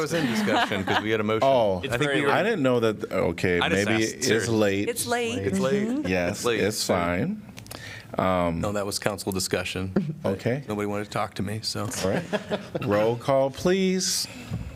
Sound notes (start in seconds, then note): 11.9 laughter